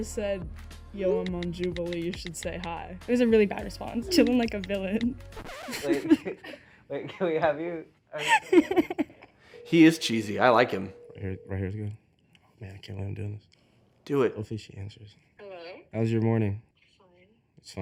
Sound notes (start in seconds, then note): 5.3 record scratching; 8.2 person laughing